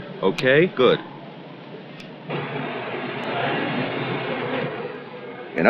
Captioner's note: distant chatter